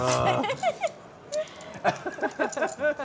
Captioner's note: laughing